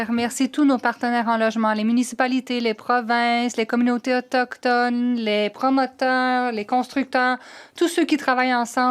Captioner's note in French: voix de l'interprète